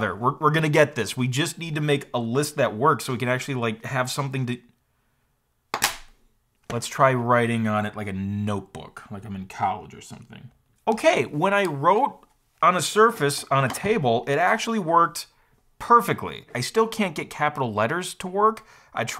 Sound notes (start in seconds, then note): none